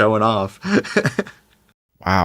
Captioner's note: laughs